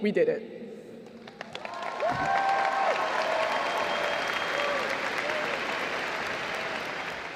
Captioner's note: applause; cheers